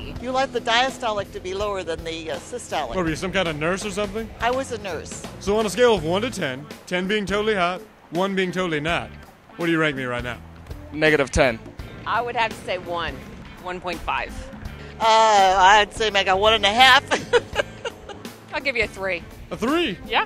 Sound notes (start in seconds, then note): 16.6 laughs